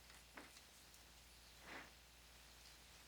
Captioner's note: none